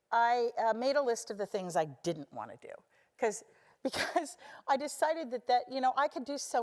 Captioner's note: laugh